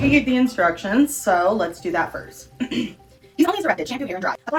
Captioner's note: clears Throat